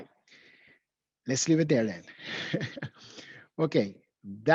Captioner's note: laughs